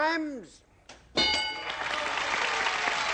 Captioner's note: ding; applause